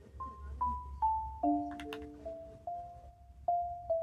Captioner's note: sound of pressing a button on the remote control